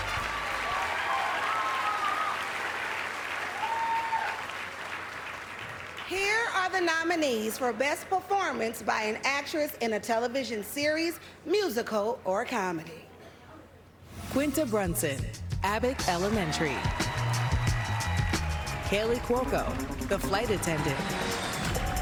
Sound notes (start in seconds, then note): 3.7 applause